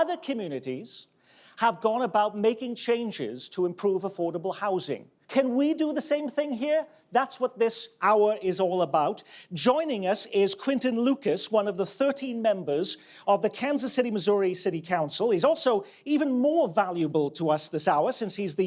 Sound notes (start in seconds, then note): none